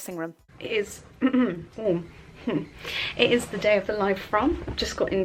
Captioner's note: clears throat